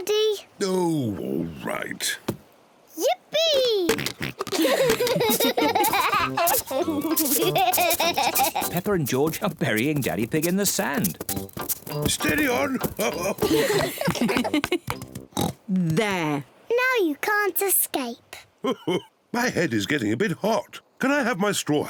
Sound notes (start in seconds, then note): 3.9 oinks; 3.9 all laugh; 12.0 chuckles; 15.3 oinks; 18.6 laughs